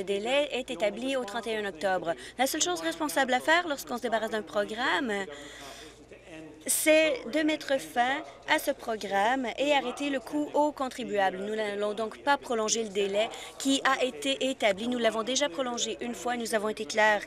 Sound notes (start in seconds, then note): none